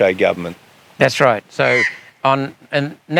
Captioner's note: eagle screaming